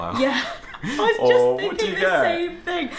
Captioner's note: laughs